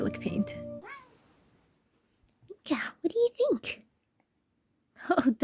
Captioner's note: Mika meows